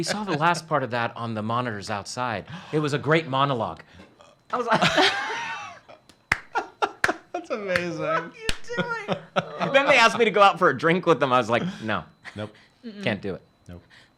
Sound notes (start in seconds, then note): 8.0 laughs